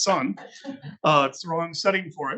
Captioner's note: attendees laughing